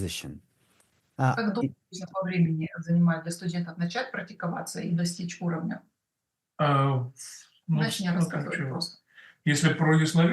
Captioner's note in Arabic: روسي